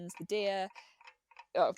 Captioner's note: tick tock noise ends